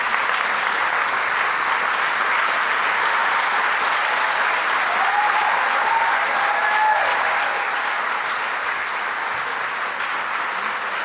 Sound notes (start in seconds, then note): 4.9 cheering and applause